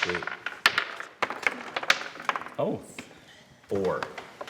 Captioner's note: dice rattling